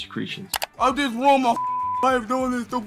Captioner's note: beeping